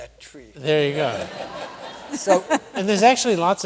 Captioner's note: laughter